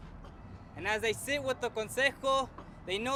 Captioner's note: speaking foreign language